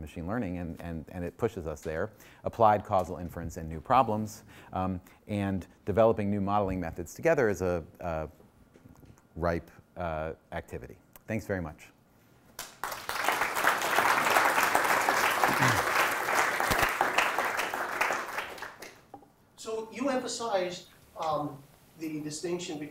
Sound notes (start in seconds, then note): 12.5 applause